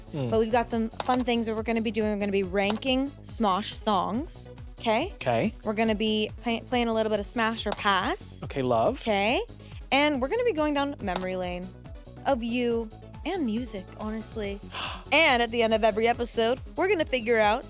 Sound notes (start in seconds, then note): 14.6 gasps